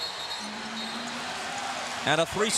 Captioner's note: whistle blows